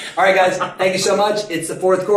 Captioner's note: men laughing